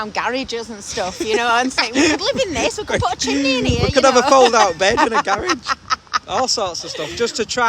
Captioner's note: laughing